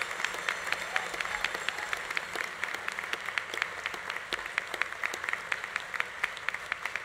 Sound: audience cheering continues; audience applause continues

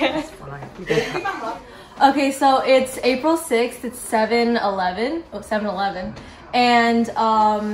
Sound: chuckles

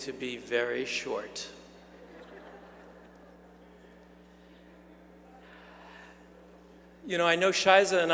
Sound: laugh

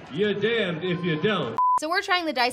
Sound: TV beeps

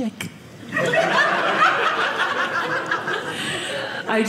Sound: audience laughing

